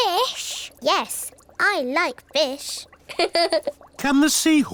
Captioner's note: laughs